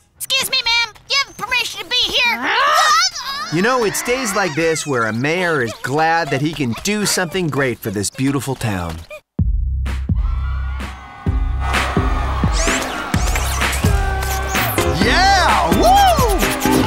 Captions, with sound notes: Ma'am, do you have permission to be here? -Argh! -Aaah! You know? It's days like this where a mayor is glad that he can do something great for this beautiful town. [crowd cheers] [thumping music] Yeah! Whoo!